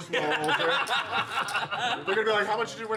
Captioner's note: laughter